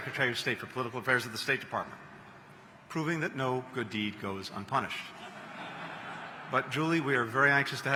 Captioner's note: laughter